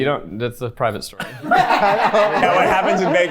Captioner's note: everyone laughing